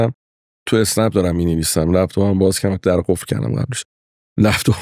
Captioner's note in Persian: خنده